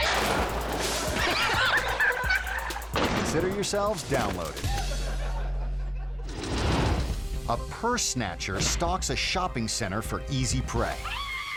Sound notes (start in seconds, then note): 0.0 bike smashing; 0.1 audience laughing; 0.1 rider yelling; 1.5 squelchy music; 3.3 bike smashing; 5.8 audience laughing; 6.3 logo whooshing; 6.5 air whoosh; 11.0 shopper screaming; 11.3 suspenseful music